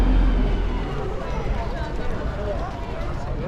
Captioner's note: people talking